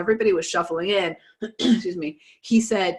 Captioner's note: clears throat